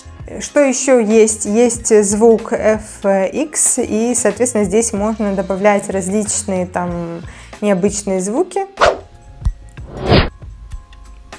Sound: sound FX

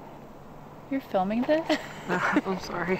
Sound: laughing

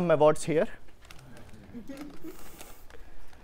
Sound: audience Laughing

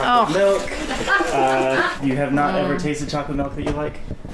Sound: people laughing

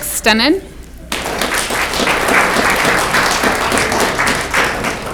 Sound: audience clapping

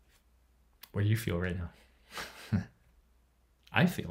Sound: chuckles

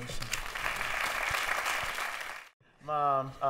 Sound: applause

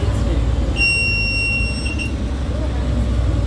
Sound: bus bell ringing

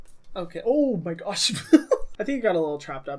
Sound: laughs

